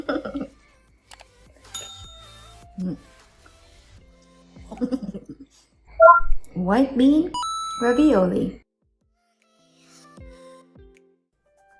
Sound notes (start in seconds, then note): 0.0 chuckles; 0.2 bell ringing; 0.2 mouse clicks; 4.7 chuckles; 7.4 dings